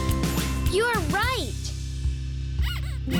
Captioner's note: Earth gasps squeakily